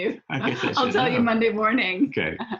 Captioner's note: laughs